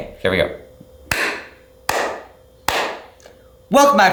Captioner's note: loud clapping